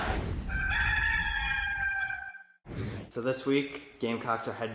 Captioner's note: rooster crows